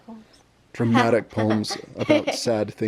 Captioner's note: laughs